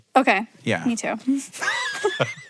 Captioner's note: giggles; Hank laughs